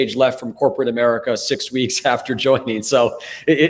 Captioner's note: chuckles